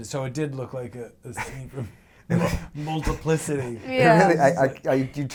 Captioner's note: laughs